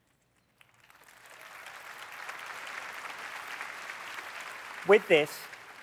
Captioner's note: applause